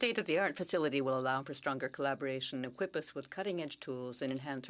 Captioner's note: speaking French